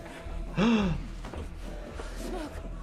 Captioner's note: doctor gasps